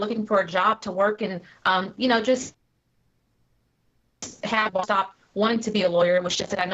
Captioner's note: technical interference